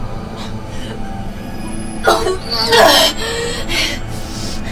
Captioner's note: vomiting